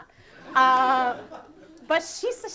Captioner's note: audience laughing